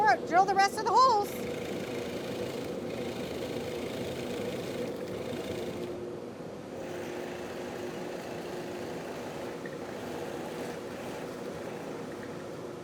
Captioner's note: soft whirring sounds